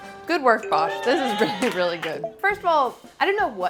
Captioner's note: clapping